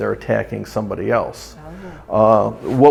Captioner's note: none